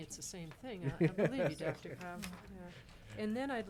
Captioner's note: laughing